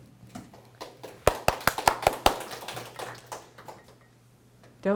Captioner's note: applause